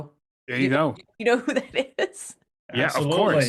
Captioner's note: laughs